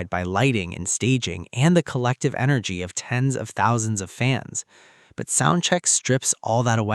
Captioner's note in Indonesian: soundcheck